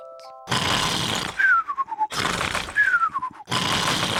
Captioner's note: sighs happily; george snores loudly